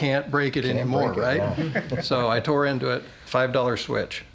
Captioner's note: laughter